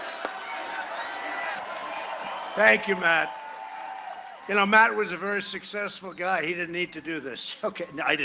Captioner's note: cheering and applause